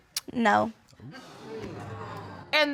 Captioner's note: audience exclaims